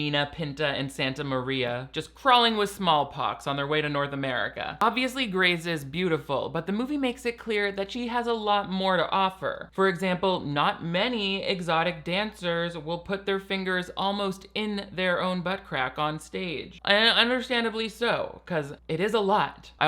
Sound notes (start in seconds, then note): none